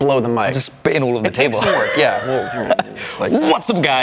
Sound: laughs

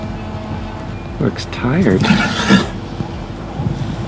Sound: sea lion snorts

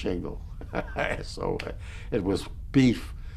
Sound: laughs

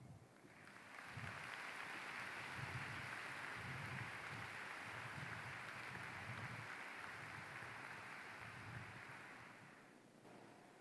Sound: applause

